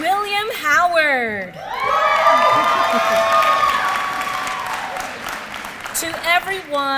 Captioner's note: applause